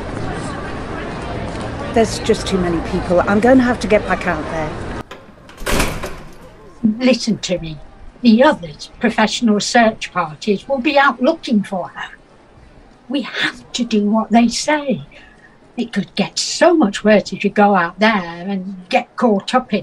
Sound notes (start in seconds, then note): 4.6 door closes, muffled crowd